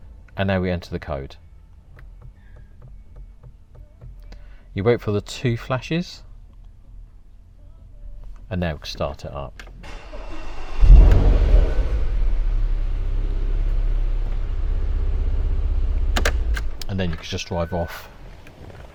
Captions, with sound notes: and now we enter the code... You wait for the 2 flashes. and now we can start it up. (car starts) And then you can just drive off.